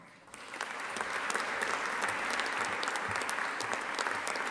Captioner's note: audience applauding